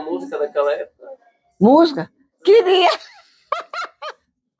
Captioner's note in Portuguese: risos